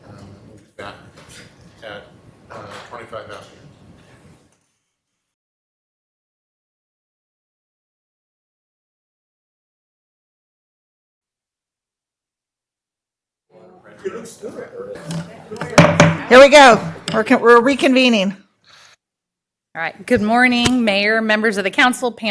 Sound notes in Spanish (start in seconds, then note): 10.0 Micrófono apagado